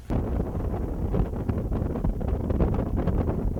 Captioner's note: air whooshing